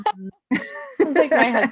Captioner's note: laughing loudly